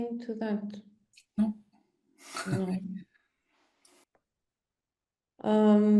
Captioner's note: chuckles